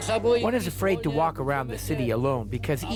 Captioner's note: speaking Czech